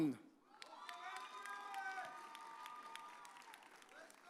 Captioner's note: audience cheers